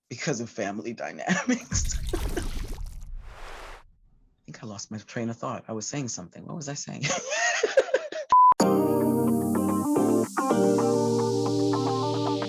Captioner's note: laughter; laughter; upbeat music